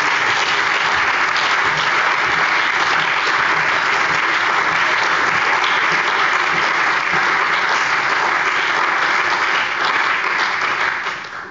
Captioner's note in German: Allgemeiner Beifall